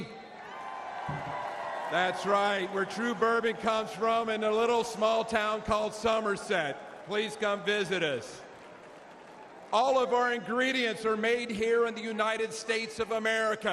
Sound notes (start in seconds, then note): 0.0 applause; 6.0 applause